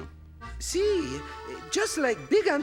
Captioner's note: speaking in foreign language